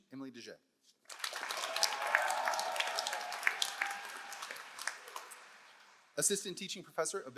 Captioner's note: all applauding; all cheering